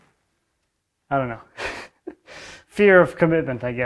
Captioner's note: chuckles